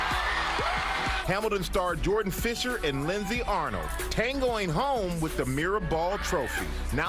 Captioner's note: cheers and applause